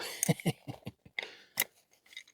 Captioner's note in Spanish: Laughing